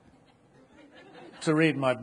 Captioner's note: audience laughing